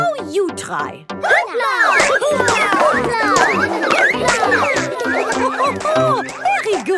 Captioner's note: all laugh